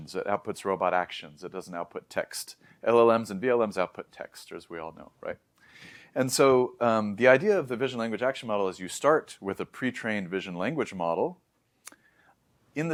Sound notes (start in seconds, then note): 5.6 inhales; 11.8 lips smack; 11.9 inhales